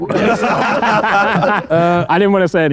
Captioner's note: group laughing